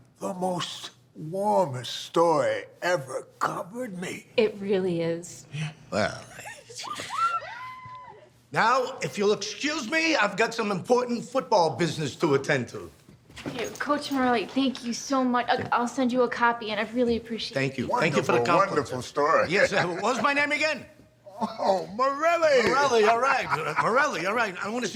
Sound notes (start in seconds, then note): 6.3 girls giggling